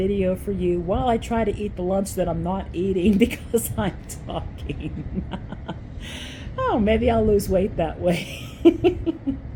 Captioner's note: laugh; laugh